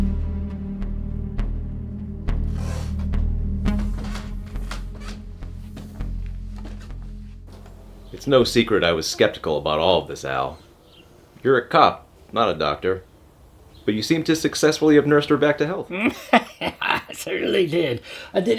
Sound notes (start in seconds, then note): 3.6 steps creaking; 15.8 laughs